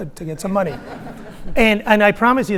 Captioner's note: audience laughing